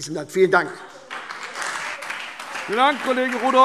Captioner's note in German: Beifall SPD, Freie Demokraten und DIE LINKE